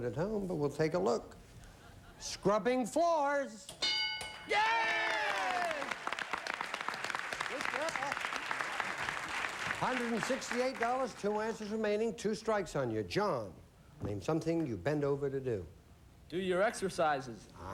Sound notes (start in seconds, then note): 4.4 cheering and applause